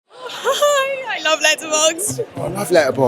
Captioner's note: giggles